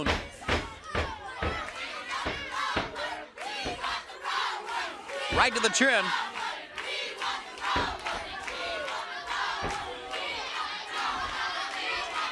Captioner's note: crowd cheering